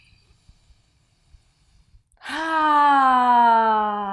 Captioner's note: sighs audibly